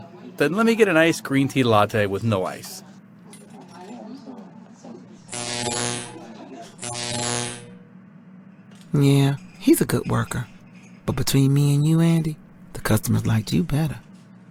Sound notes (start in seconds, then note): 5.0 electronic shorting-out sounds